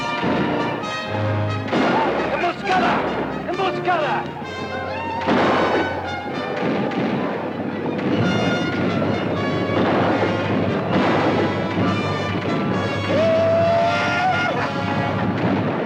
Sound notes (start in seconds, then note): 2.3 Apache speaks Spanish; 5.2 gun fires; 6.8 guns fire; 13.2 Apache howls